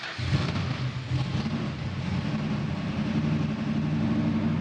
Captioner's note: engine revving